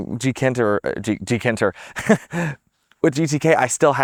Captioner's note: laughs